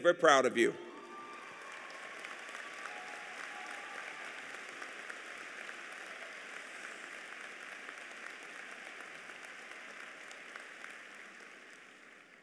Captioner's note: applause